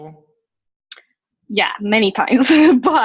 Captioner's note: laughs